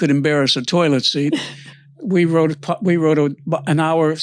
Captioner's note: laughs